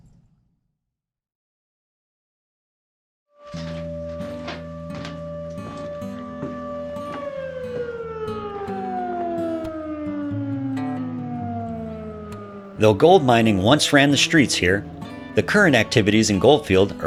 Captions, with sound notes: [Work Siren] Though gold mining once ran the streets here, the current activities in Goldfield